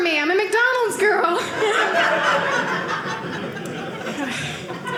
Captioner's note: audience laughing